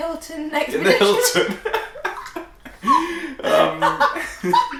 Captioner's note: laughing